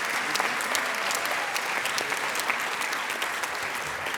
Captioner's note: applause